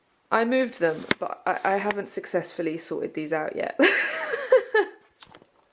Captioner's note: laughs